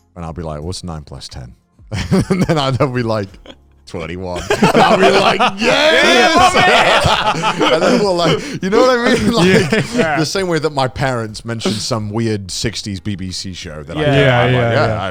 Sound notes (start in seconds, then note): 1.9 chuckles; 4.3 all laughing